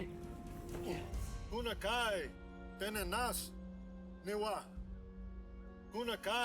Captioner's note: speaking in foreign language